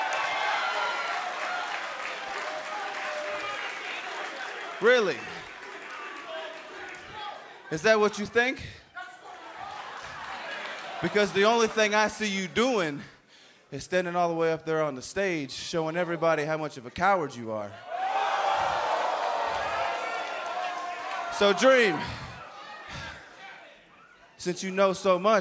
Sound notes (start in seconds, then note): 0.0 crowd cheering; 17.7 crowd cheering